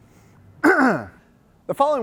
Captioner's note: clears throat